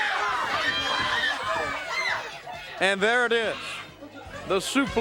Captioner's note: crowd cheering